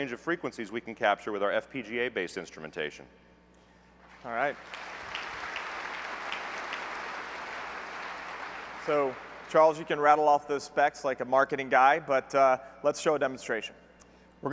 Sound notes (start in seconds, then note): 4.1 applause